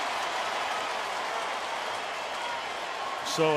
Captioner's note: cheering